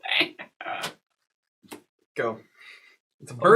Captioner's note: cackles